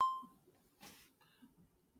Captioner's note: beep; silence